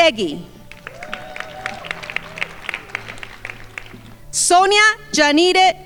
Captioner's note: crowd applauding